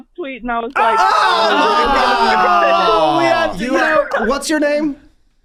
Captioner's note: everyone shouts